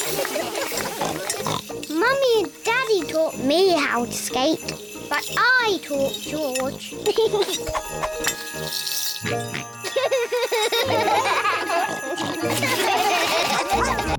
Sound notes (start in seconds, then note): 0.2 snorts; 7.0 giggles; 9.2 snorts and giggles; 11.5 all laugh